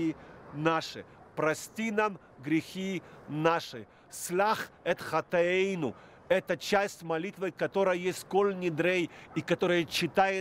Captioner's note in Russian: говорит на иврите